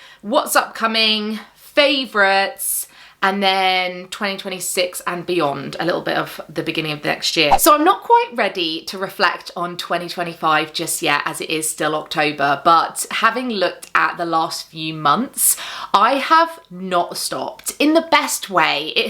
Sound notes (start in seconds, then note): 7.5 video whooshing